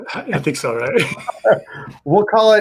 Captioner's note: chuckling